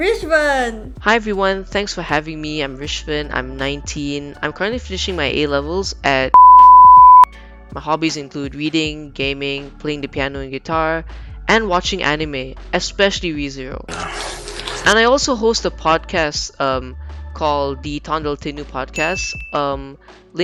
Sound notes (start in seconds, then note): 6.3 beep